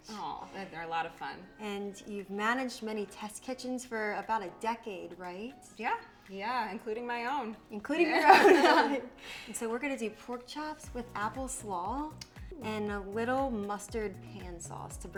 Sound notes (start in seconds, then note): 8.1 both laughing